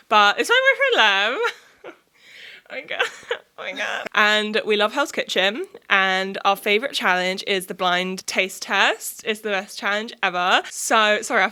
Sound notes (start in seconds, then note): 2.8 giggles